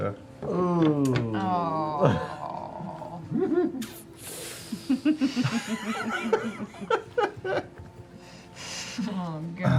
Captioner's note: groaning and laughter